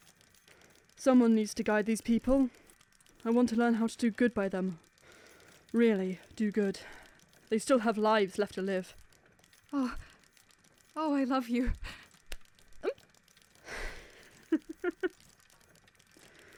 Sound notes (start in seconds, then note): 11.3 sable covers her mouth, squeaks; 13.7 penny chuckles